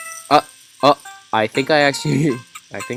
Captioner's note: chuckles